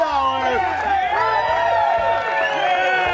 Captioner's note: applause